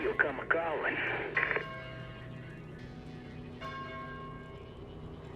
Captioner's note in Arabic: رنين جرس الكنيسة